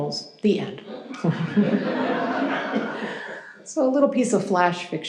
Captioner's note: audience chuckles